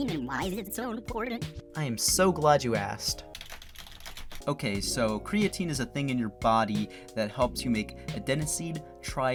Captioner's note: typing